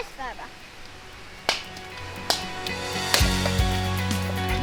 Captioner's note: smacking